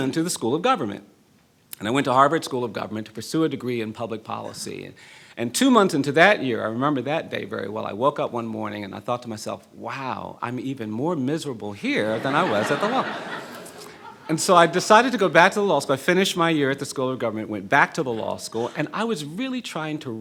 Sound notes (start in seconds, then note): 12.2 laughing